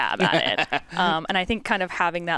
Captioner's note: chuckles